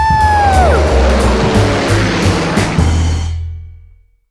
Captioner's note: engine roars